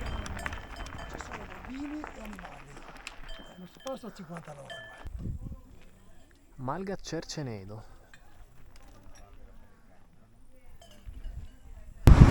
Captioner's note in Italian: Applauso